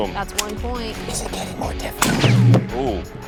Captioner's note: whispering loudly